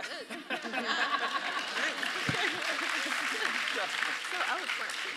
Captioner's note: audience applauds